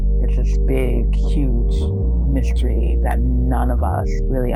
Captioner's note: track rumble and clunk